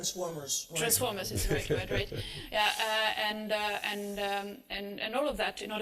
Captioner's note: laughter